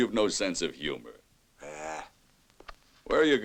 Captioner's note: growls